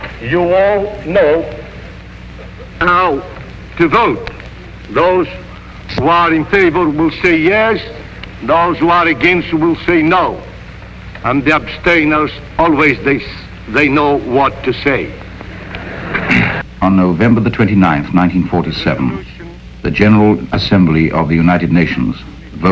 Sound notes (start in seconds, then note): 15.4 crowd laughing